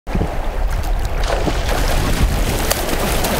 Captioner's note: water splashing